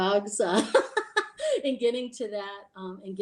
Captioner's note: lady laughing